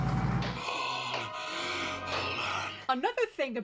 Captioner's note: GASPING for air